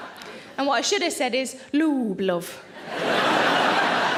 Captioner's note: audience laughing